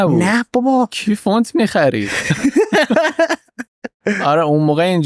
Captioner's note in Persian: خنده